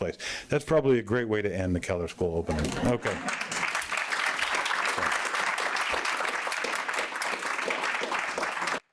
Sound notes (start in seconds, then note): 2.6 applause